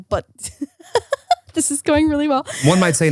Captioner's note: laughing